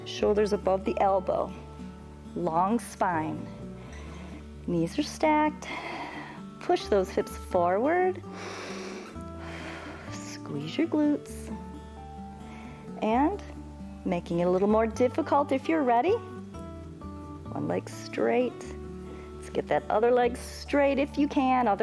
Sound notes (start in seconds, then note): 8.2 inhales and exhales